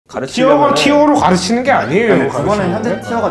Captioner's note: quarreling